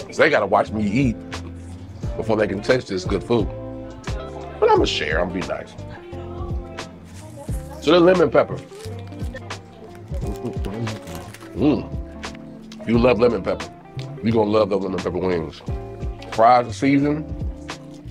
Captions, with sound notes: 'cause they gotta watch me eat before they can taste this good food. But I'mma share, I'mma be nice. (upbeat music) So the lemon pepper. (moans) You love lemon pepper, you gonna love the lemon pepper wings. Fries are seasoned.